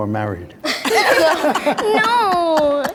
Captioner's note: group laughs